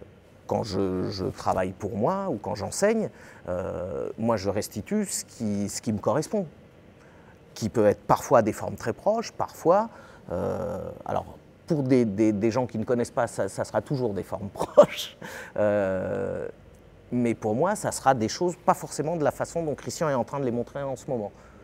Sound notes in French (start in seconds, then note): 14.5 rires